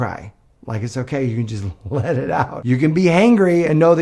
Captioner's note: laughs